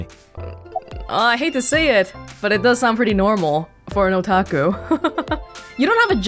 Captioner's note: chuckles